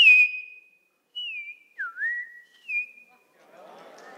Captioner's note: whistling of the bird; whistles back